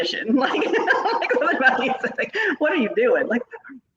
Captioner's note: laughing